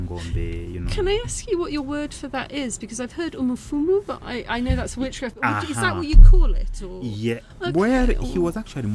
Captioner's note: ah-hah